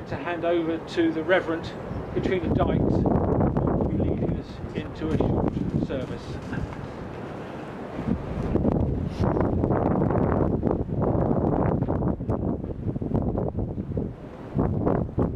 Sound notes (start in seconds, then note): 11.1 more wind noise